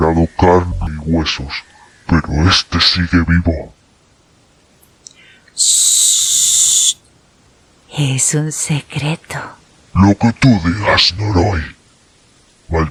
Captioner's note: humming